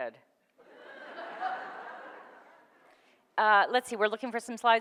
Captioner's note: audience laughs